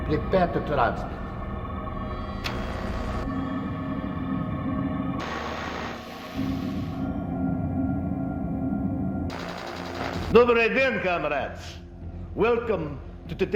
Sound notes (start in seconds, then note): 2.9 radio buzzes; 10.8 speaking in foreign language